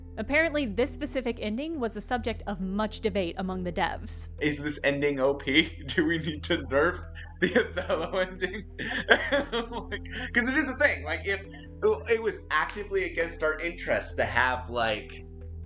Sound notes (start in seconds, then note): 8.5 laughing